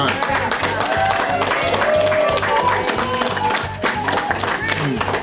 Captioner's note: crowd clapping and cheering